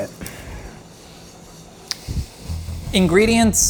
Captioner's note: faint whisking